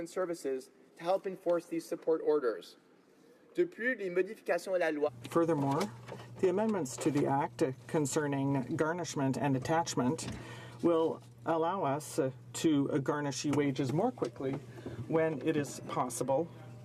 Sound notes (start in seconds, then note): 7.4 speaking French